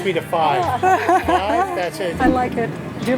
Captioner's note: laughs